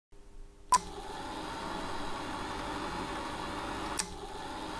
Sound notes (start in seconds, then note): 0.7 film whirring